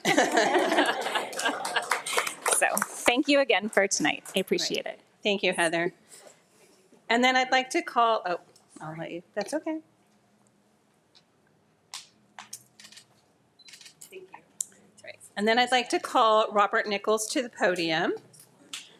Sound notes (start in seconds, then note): 0.0 attendees laughing; 0.0 attendees clapping; 13.6 camera clicking